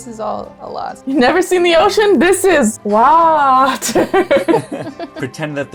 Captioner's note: laughter